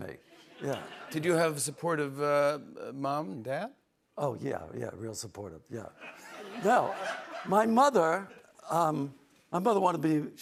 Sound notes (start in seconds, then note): 3.8 sarcastically